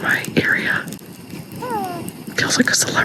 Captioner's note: loon calls